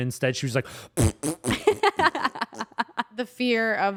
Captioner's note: imitates farts; laughs